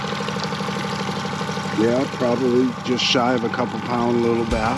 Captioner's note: fish splashing